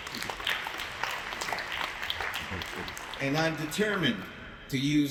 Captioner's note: applause